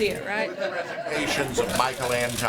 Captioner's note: laughter